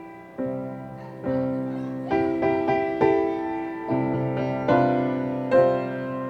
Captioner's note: audience shouting encouragement